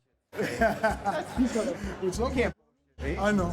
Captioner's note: all laughing